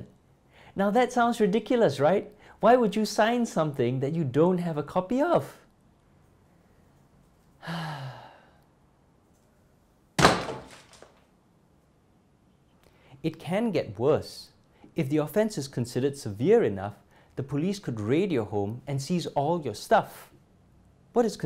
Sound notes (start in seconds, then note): 7.6 sighs